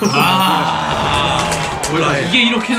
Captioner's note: clap clap clap clap